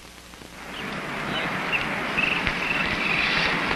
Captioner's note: birds chirping